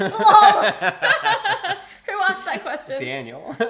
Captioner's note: both laughs